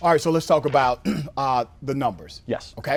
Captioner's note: cough